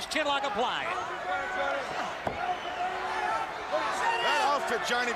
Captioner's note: crowd chatter